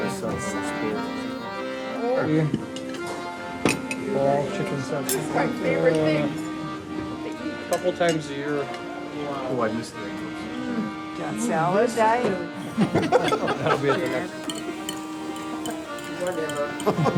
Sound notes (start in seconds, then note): 12.6 group laughs; 14.1 accordion music